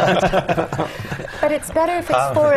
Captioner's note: laugh